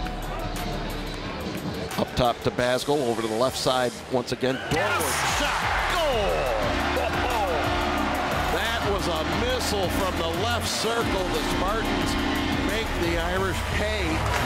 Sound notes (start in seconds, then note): 6.6 crowd cheering